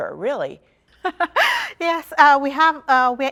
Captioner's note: laughter